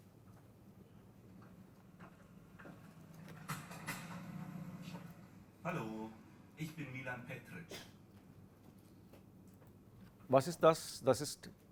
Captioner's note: textbook audio is played